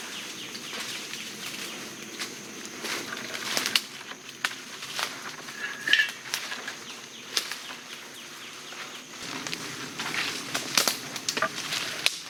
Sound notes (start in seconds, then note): 0.1 birds and bugs chirping; 3.5 dry foliage crunching